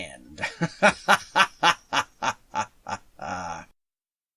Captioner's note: evil, maniacal laughter